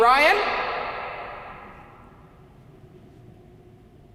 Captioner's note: voice echoing